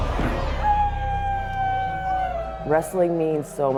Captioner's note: howling